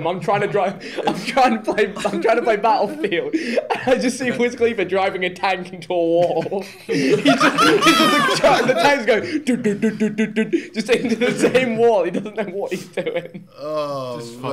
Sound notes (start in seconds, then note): 7.1 laughing